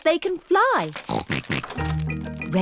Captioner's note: snorting